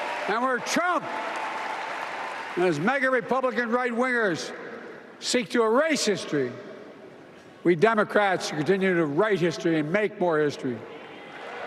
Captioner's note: applause